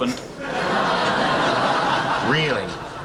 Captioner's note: laughing